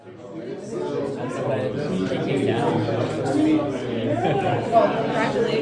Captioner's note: background chatter